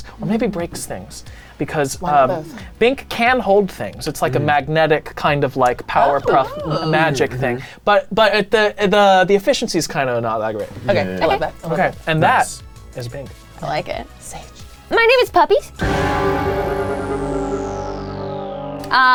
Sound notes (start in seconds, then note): 14.1 whispering; 15.6 intense music